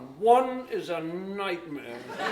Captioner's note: laughter